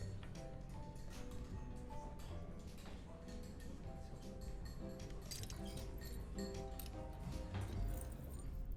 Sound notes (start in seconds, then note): 5.3 glass clinks